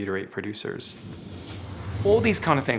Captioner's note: whooshing